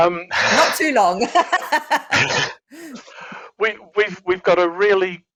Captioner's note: laughs